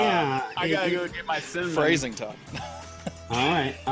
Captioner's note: chuckling